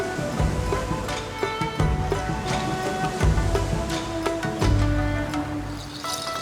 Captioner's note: gentle thoughtful music; waves sloshing